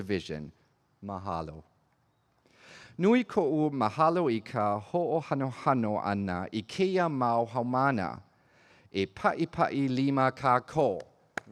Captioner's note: speaking in olelo Hawaii